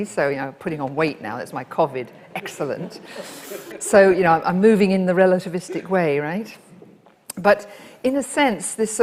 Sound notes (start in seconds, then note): 2.2 audience laughs